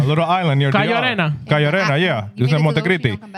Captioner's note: speaking In Foreign Language